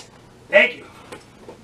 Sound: speaks

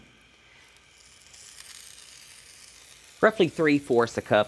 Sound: soft sizzling

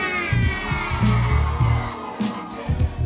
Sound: audience screaming and cheering

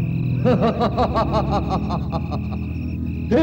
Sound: laughs

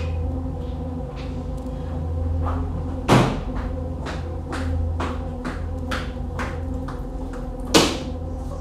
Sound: footsteps getting louder

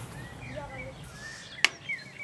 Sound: birds chirping

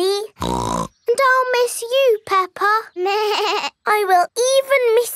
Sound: snorts; bleats

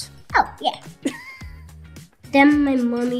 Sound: laughing

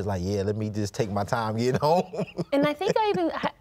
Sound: laughs

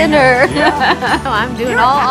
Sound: laughs

